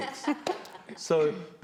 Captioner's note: crowd laughs